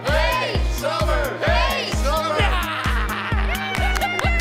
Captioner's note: crowd cheering